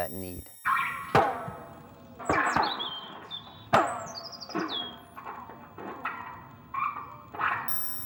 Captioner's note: electronic glitch foot stamping birds song